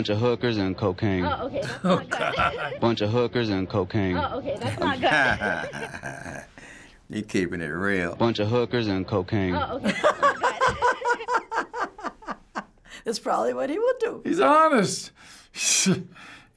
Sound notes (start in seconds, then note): 4.3 chuckling; 9.8 laughing uproariously